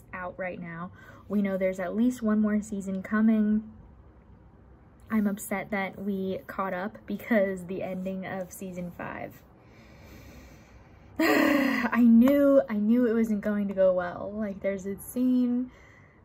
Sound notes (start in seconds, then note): 11.1 sigh